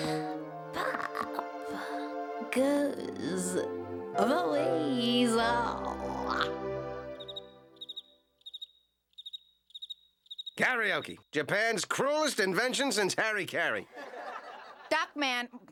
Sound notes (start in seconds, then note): 0.6 breathy; 7.0 cricket chirping; 13.9 audience laughing